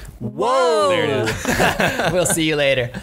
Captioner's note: laughs